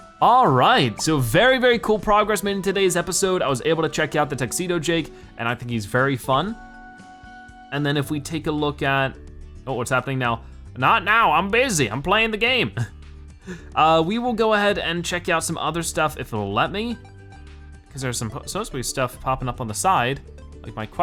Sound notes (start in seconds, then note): 13.4 chuckles